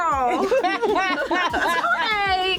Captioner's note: laughter